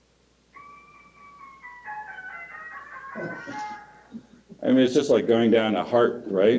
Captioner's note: oropendola call